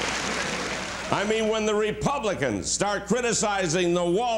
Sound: applause; laughter

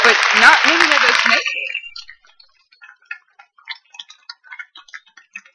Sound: applause

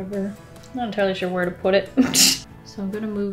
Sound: chuckle

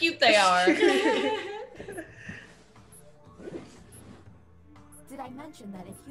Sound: laugh

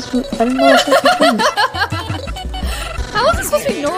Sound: laughs

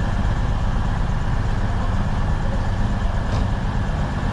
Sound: train humming continues

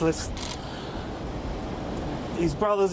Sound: sighs

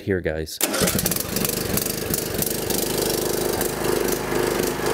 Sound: engine starting

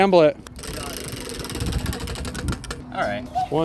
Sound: wheel whirring

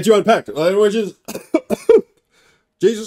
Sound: coughs

